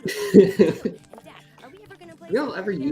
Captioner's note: laughter